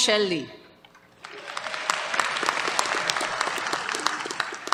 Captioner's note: applause